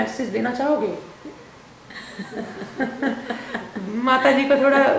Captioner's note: both laughing